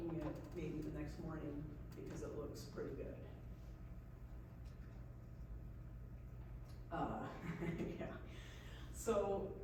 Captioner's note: laughs